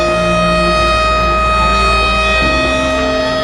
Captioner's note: alarm sound